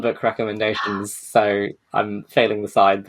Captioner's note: gasps